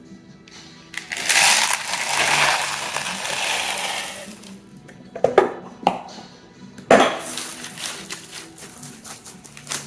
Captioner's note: ceramic balls rolling and hitting each other